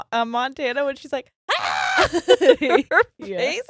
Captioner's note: screams